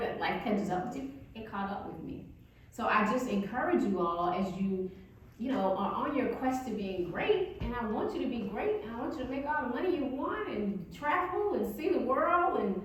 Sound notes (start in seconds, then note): none